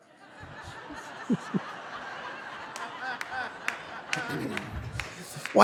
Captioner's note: Jon and audience laughing